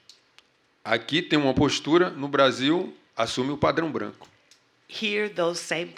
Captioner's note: speaking portuguese